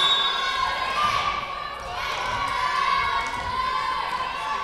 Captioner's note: whistle blowing